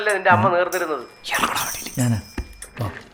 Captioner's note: whispers